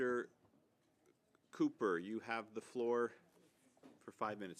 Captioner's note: speaking French